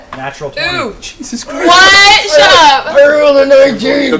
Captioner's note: hoarsely